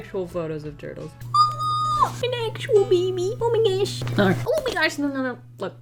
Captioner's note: squeals